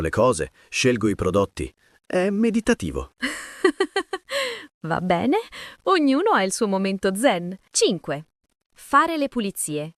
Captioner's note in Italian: risate